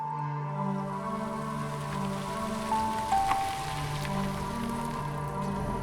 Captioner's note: car engine revving; dramatic music